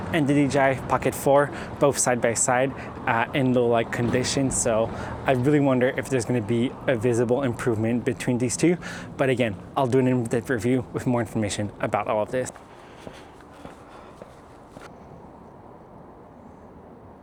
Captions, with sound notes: and the DJI Pocket 4, both side by side in low light condition. So I really wonder if there's gonna be a visible improvement between these two. But again, I'll do an in-depth review with more information about all of this. (breathing heavily)